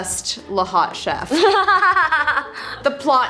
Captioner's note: laughter